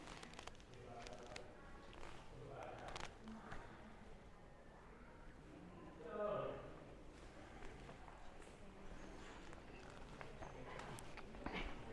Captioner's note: background chatter